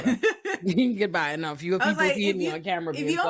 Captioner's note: laughing